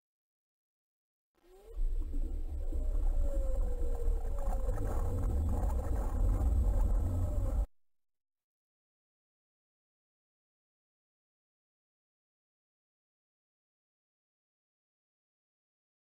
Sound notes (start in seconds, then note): 1.4 mysterious nature sounds play in 32-bit technology; 9.0 silence